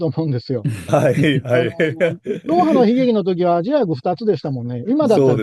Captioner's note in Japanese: 笑い